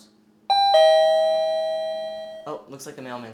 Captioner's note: doorbell